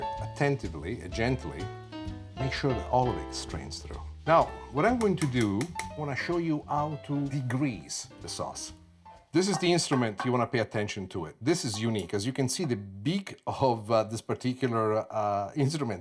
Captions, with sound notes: attentively, gently make sure that all of it strains through. Now, what I'm going to do (spoon tapping) I wanna show you how to degrease the sauce. This is the instrument, (tapping glass) you wanna pay attention to it. This is unique, as you can see the beak of this particular instrument